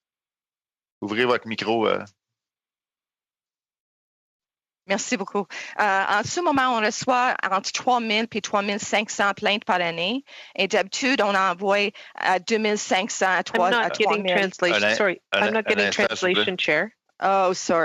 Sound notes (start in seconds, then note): 14.8 speaking French